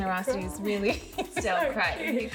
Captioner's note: laughing